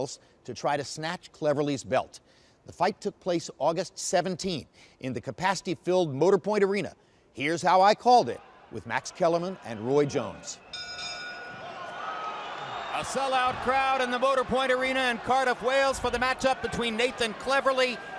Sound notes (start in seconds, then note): 10.7 bell dings; 11.2 cheering